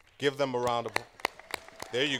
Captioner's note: applause